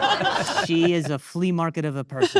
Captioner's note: audience laughing